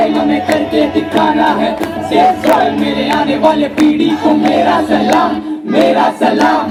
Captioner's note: cheering/Applause; speaks in Hindi - not transcribed